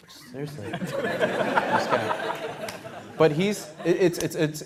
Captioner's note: laughter